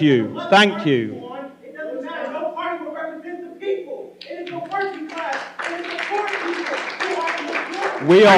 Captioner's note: shouting